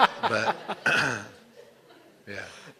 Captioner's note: laughter